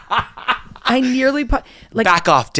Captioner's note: laughing